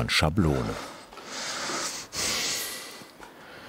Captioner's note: concentrated breathing